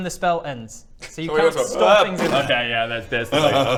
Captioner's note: bmmpf